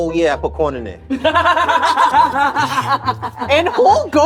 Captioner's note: all laughing